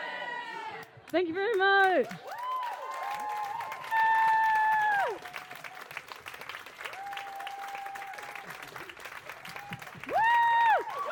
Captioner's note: applause